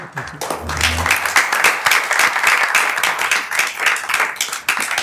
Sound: members applauding

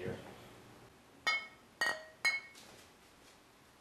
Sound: bottles clinging together

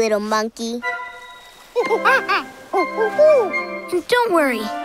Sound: monkey sounds

